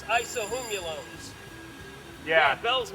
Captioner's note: bell ringing